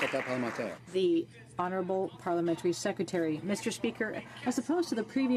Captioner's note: some Applause